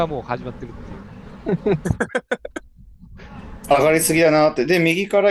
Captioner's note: laughs